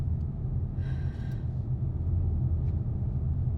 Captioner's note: exhale